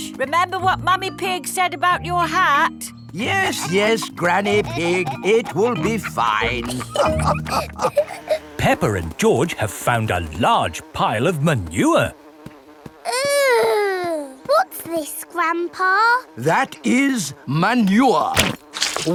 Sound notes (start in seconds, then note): 7.1 all laughing